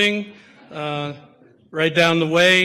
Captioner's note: audience laughter